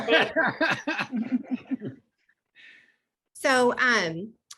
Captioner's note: laughs